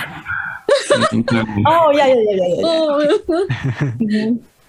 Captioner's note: risas